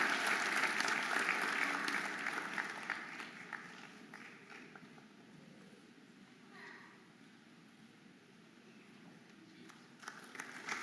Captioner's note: audience applauding and cheering